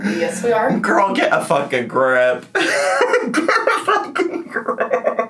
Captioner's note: laughs